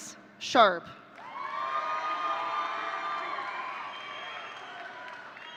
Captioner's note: audience cheering